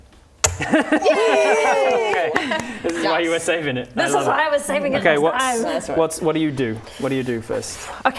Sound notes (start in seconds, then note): 0.6 laughing